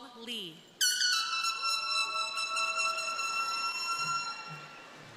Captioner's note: crowd cheering